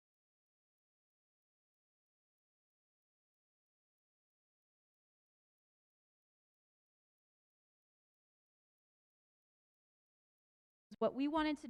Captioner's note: audio lost